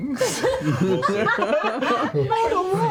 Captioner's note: all laugh